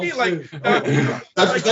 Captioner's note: laughing